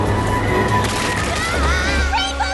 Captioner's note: scream